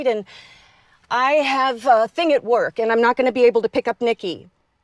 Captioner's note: none